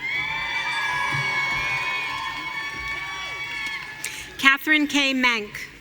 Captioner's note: audience cheering